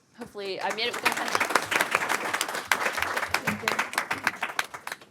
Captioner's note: audience clapping